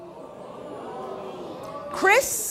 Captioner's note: audience groaning